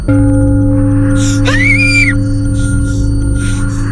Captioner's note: screaming